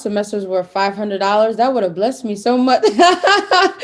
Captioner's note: laugh